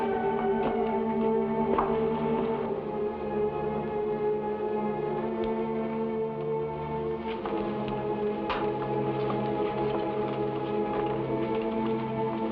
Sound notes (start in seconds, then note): 3.1 somber music; 8.4 shoes clack